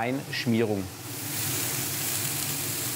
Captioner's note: hissing